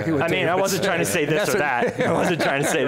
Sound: all laughing

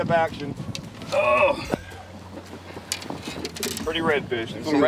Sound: groans

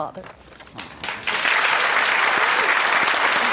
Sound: applause

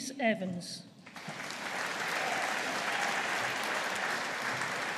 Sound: audience applauding

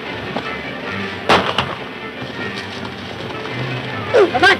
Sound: gun fires

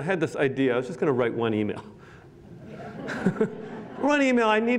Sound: laughter

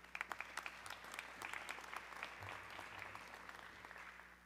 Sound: audience clapping

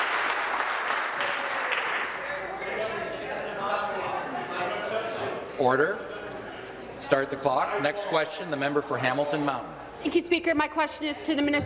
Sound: applause

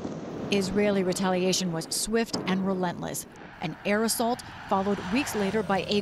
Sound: voice-over

